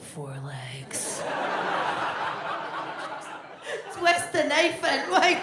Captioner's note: audience laughs